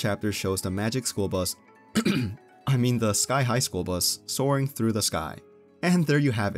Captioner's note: ahem